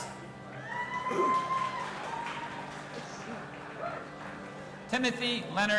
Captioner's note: audience applauding and cheering